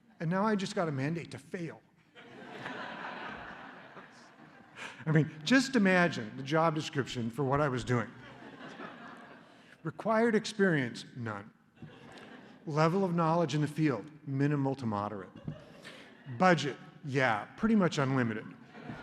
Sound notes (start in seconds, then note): 2.1 laughter; 8.2 laughter; 11.8 laughter; 15.3 laughter; 18.6 laughter